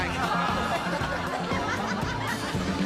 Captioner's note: crowd laughing